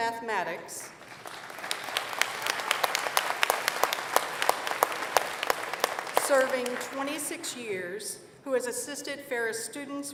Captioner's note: applause